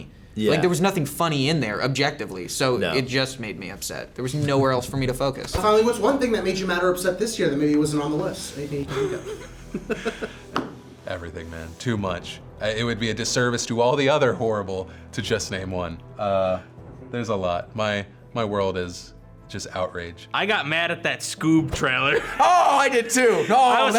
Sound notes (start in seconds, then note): 8.9 chuckles